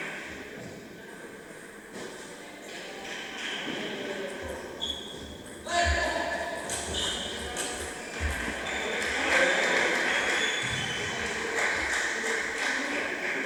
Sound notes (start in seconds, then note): 8.9 applause